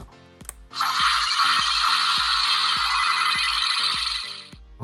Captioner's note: lock generating sound effect